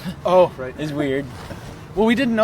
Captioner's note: laughing